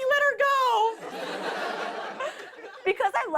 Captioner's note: laughter